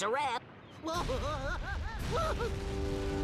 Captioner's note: Daffy screaming